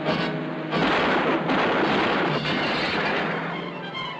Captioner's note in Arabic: طلقات نارية